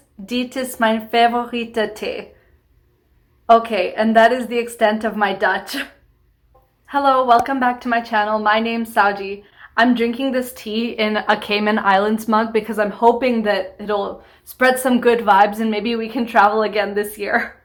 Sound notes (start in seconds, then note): 2.3 in English